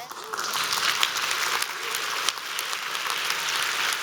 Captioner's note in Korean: 박수